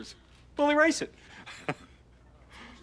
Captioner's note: chuckles